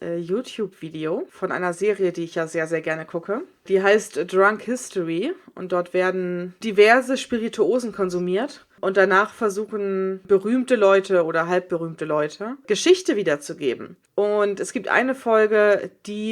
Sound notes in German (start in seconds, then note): none